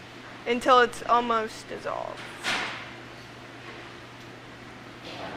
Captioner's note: loud bang nearby